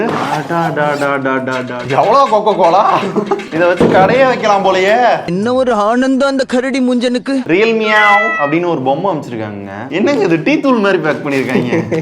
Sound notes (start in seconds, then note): 3.0 laughter